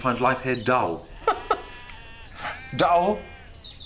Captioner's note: laughs